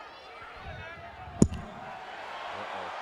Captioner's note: mic clunks; crowd cheering